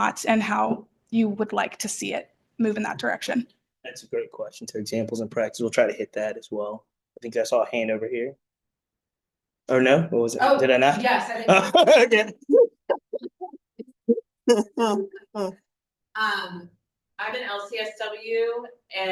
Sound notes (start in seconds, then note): 11.4 laughing